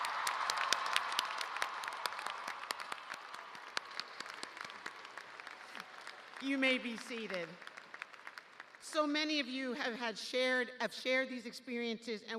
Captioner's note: cheers and applause